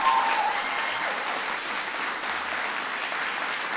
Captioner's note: applause